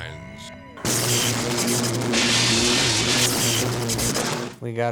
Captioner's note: electricity buzzing